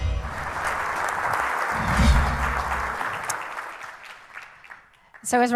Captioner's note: audience applauding